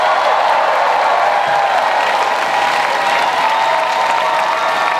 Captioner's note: crowd cheers and applauds